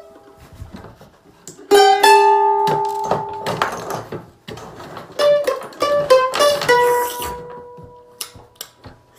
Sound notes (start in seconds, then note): 6.4 slurp; 8.0 smacks lips